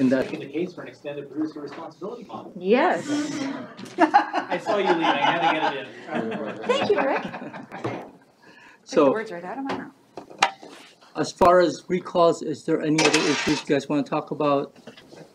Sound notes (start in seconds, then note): 4.0 indistinct chatter; 4.0 laughing